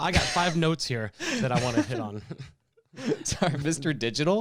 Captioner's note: laughs